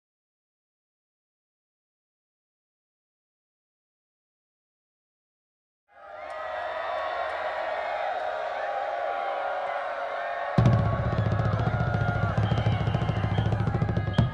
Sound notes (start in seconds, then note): 5.9 crowd cheering; 11.0 upbeat band music